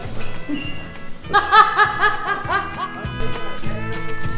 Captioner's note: laughs; country music